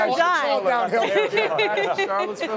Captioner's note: laughter